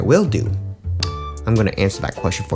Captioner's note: click